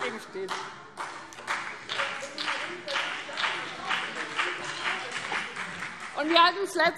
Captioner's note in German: Beifall BÜNDNIS 90/DIE GRÜNEN und vereinzelt CDU